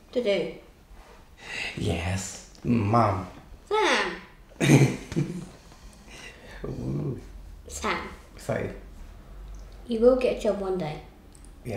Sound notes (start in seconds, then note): 4.6 laughs